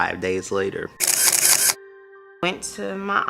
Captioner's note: camera shutter clicking